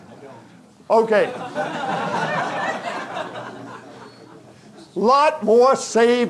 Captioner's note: audience chuckling; audience laughing